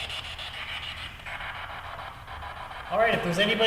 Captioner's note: static buzzing